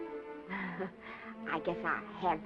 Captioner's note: laughs